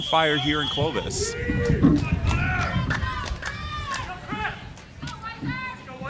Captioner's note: cheering